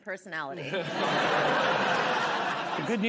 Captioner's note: laughter